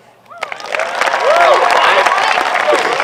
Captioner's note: applause